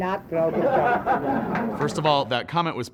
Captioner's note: laughter